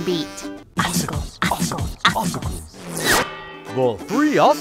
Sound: chanting

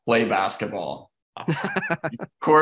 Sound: laughing

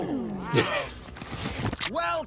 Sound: laughs

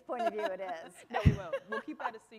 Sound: laughter

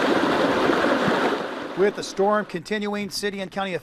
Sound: hard rain falling

